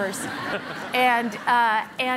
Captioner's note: laughing